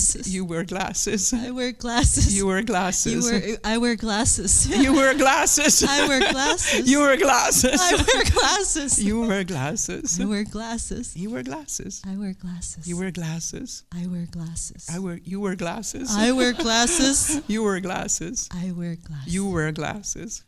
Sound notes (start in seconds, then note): 4.5 laughs; 16.0 laughs